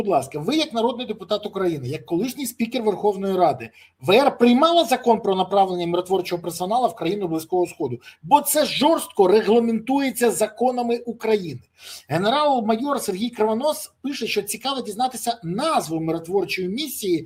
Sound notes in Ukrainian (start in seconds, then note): 11.7 сопіння